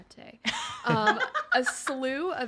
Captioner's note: laughs